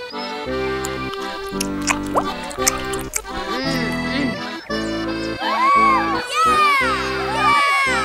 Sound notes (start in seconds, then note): 0.6 chewing; 5.4 cheering